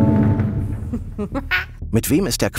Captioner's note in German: Triumphales Lachen